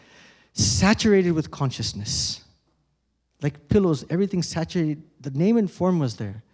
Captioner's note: none